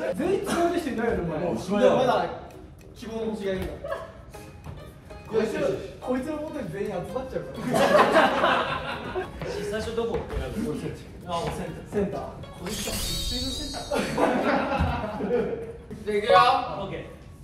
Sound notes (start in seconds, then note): 12.6 sound effect:ta-da